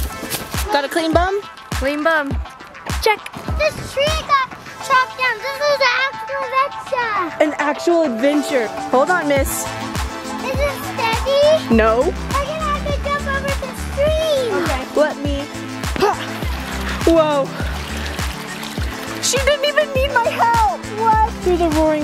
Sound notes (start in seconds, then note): 16.0 grunts